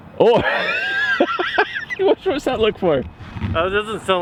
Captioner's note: laughs